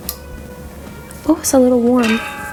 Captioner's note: switch clicks